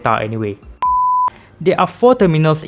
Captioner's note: beep